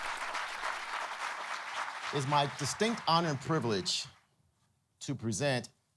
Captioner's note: applause